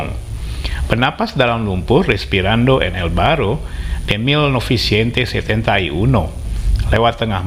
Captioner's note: breathing in the mud